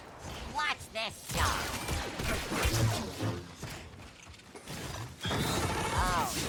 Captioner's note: gunshots